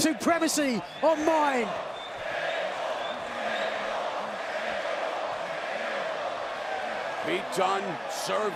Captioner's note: crowd cheering